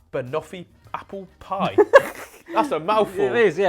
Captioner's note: laughing